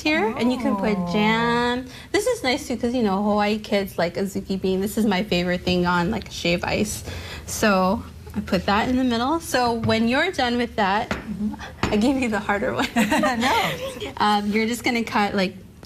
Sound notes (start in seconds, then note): 13.2 laughing